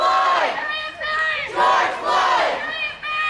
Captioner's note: crowd